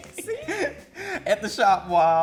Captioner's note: laughs